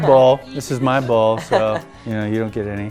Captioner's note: laughs